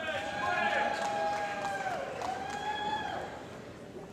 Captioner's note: cheering & Applause